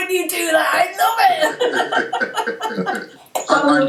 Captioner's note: laughter